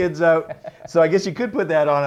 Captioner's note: laughs